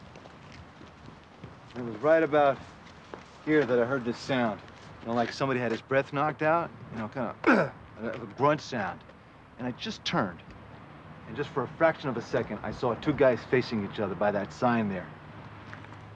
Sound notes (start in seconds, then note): 7.4 grunts